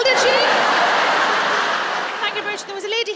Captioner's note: laughter